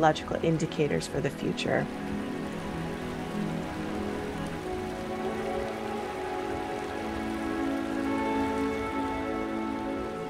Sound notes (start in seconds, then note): 1.8 water gushing; 5.4 peaceful music